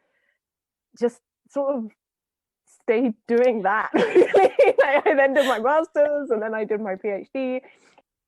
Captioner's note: laughs